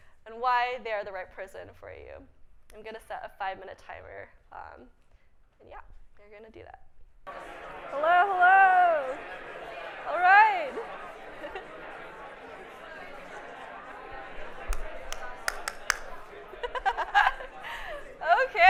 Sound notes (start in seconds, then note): 11.5 audience mumbling; 16.7 laughs